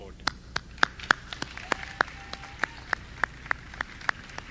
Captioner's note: clapping